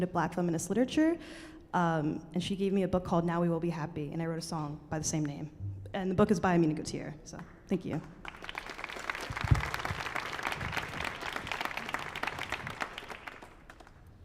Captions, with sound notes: to Black feminist literature and she gave me a book called, "Now We Will be Happy". And I wrote a song by the same name. And the book is by Amina Gautier. So thank you. [audience applauding]